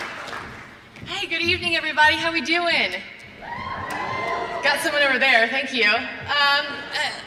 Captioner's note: applause